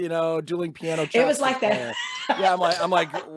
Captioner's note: laughing